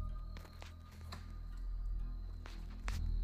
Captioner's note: rustling